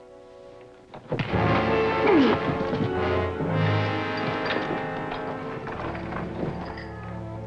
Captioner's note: thuds; Gilman groans